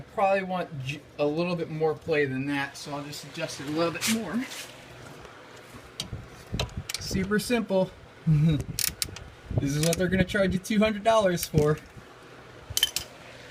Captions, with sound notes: i probably want a little more play than that, so i'll just adjust it a little more super simple. [ chuckle ] this is what they're going to charge you $200 for.